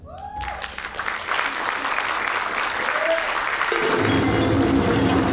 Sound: audience applauding; energetic drumming

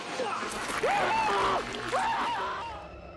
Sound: screaming; squelching

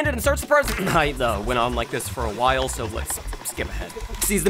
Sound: ahem

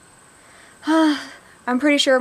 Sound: sigh

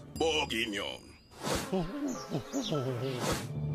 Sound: bull whimpering

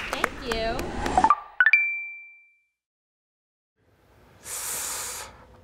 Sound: ascending beeping

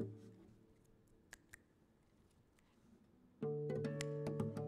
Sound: fingers snapping

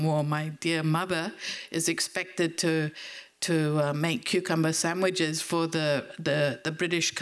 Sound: none

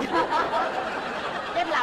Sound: laughters

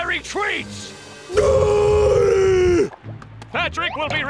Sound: screams

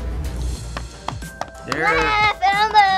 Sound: hitting noises

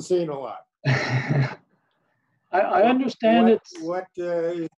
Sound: laughs

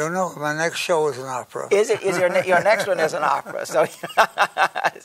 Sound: laughs

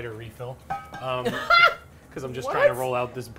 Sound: laughs

